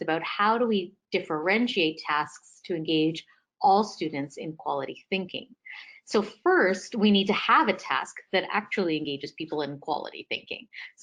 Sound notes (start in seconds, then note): none